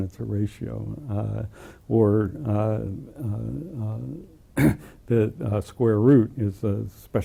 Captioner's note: cough